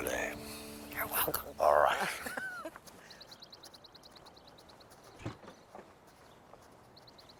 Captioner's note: laughing